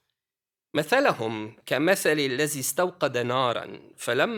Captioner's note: non-english speech